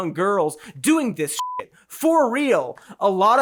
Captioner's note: beeps